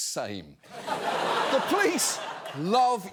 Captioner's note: studio audience laughs